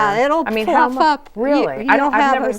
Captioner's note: laughing